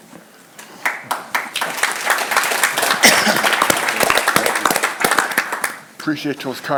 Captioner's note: applause